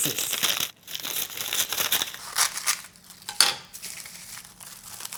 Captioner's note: scissors snipping